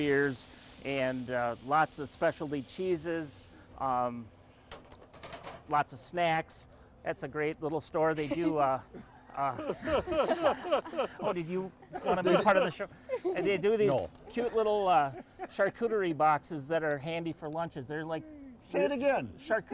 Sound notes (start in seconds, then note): 8.2 laughing